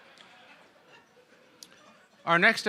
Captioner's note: laughter